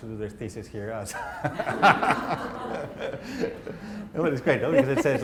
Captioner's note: laughter